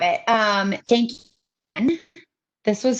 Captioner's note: audio is choppy